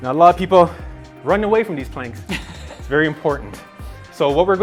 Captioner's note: laughing